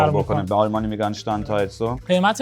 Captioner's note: in German